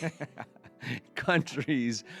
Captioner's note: laughing